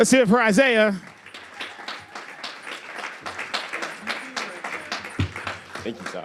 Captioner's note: applause and crowd whistles